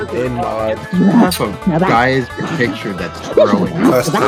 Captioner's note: ̶G̶r̶e̶m̶l̶i̶n̶ n̶o̶i̶s̶e̶s̶